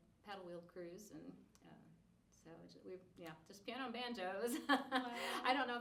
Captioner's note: laughing